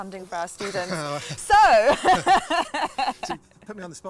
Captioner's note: laughter